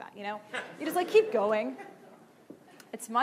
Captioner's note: laughing